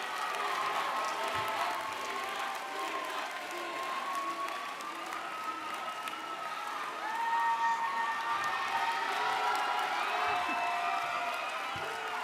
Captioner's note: cheers and Applause